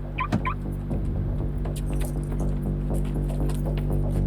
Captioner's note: car alarm beeps